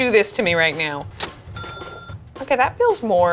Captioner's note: cash register ringing